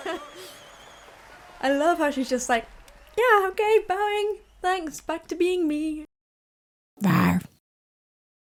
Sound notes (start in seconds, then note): 0.0 speak in a Dutch; 0.0 laughs; 7.0 character growls